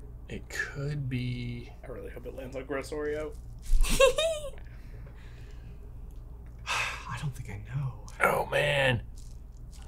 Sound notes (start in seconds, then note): 3.8 laughs